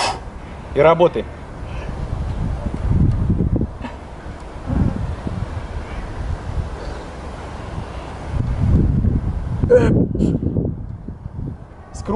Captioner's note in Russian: звук выдоха